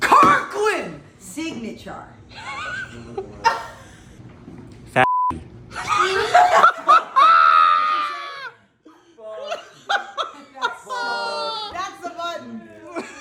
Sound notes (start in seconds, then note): 5.0 beep; 5.8 laughing